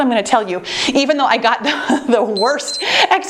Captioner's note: time beeps